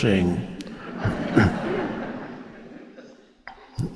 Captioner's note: audience laughs